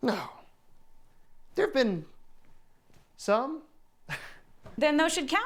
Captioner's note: chuckling